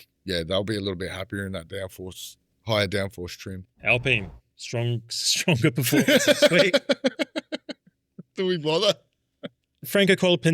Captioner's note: laughing